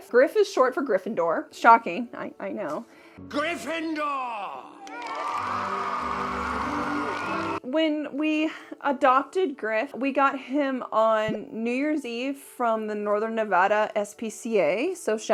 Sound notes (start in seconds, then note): 4.6 crowd cheering